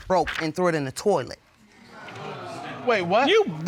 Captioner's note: audience exclaims